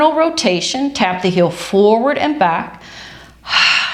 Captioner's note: exhales